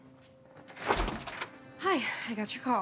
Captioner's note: door clicking